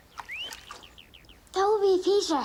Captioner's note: whistling